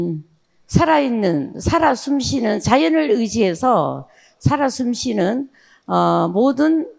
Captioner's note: speaking in foreign language